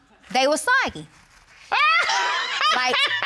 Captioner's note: judge laughs